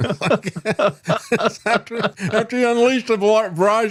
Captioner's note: laughing